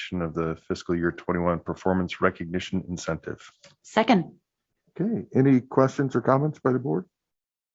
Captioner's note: none